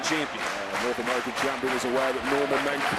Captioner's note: crowd cheers